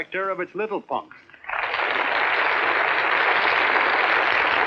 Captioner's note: applauding